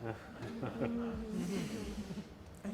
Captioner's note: laughing